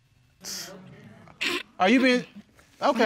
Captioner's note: chuckles; scoffs